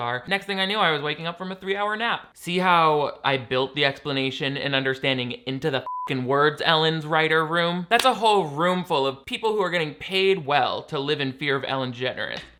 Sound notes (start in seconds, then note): 5.8 beep